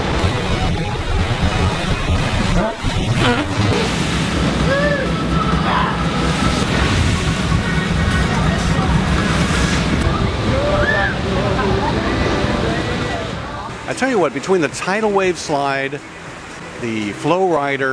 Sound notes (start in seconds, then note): 10.6 scream